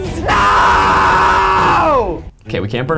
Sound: shouting

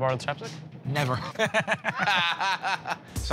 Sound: laughter

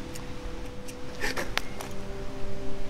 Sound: laughter

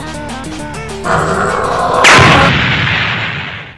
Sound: demonic screaming

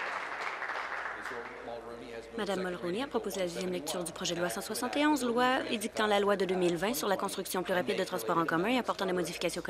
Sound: applause

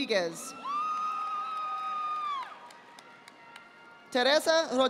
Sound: audience applauding

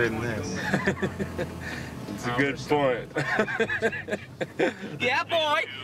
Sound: laughing

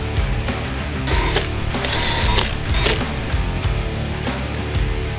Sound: upbeat metal rock music; drill buzzes

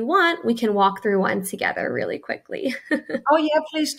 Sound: chuckles

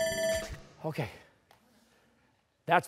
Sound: bell rings

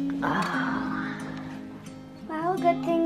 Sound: sighs

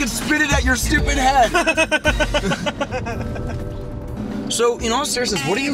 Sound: laughing

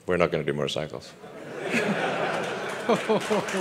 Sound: audience laughter

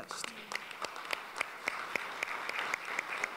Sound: applause

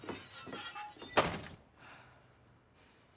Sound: door shuts; breathing heavily

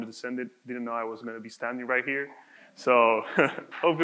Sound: laughs

